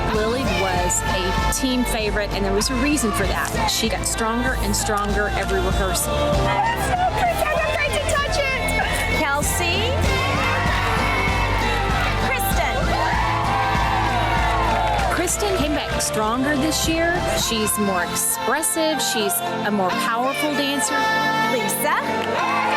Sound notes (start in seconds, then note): 10.3 upbeat music; 10.3 women cheering; 13.8 upbeat music; 13.8 women cheering